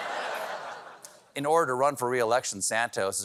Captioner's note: laughter